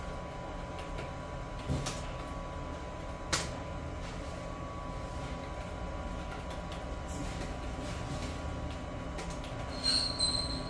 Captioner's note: keyboard noise